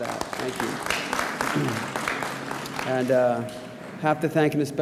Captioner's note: audience applauds